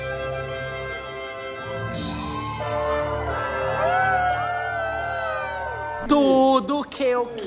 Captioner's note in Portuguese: gritos; canta